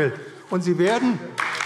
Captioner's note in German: Beifall AfD